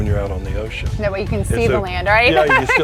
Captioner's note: laughs